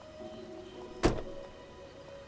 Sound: car door closes

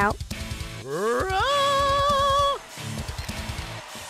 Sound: portal singing

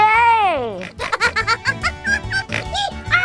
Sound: elf laughs hysterically

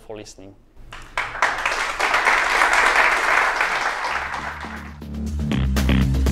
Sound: applause

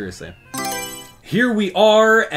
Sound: Mario Selection Sound

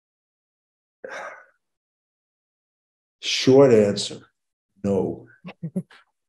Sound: sighs

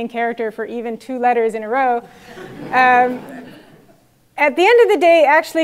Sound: laugh

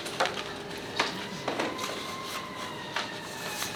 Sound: siren blaring

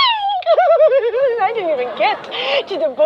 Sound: exaggerated laughter

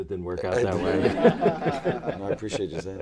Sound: laughter

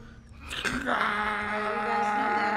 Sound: grunting

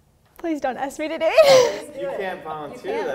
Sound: laughs

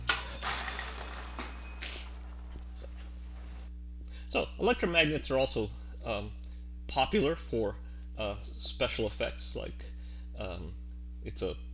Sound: metal Clink

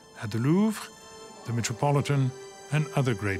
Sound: speaks French

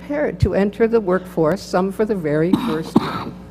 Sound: cough

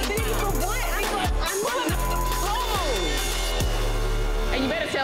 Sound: beep

